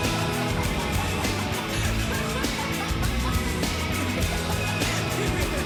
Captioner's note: laughter